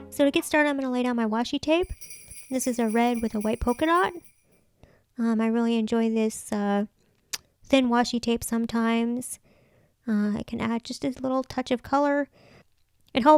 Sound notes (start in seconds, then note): 1.8 sleigh bells jingle